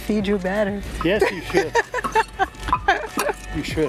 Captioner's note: laughs